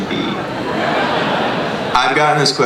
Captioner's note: laughter